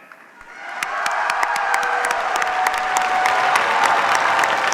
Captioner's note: cheers, applause